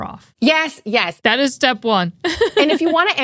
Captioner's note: laughs